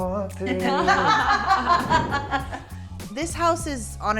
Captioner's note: everyone laughs